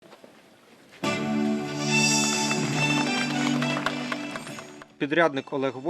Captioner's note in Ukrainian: звучить музика та оплески